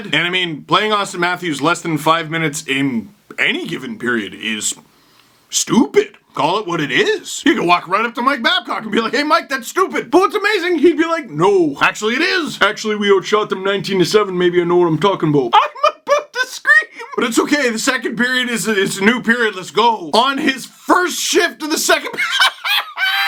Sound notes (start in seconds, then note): 16.1 utters this out while laughing; 22.2 bursts out laughing